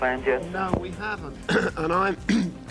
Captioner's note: clears throat